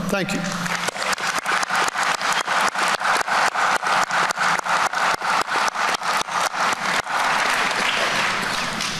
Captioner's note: applause